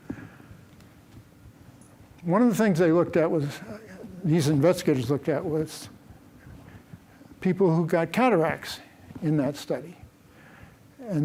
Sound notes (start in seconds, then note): none